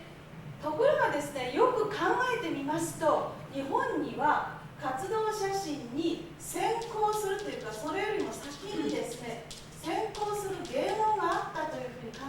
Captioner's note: speaking Japanes